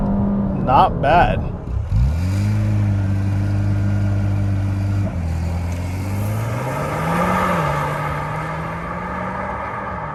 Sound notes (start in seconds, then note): 2.8 engine revving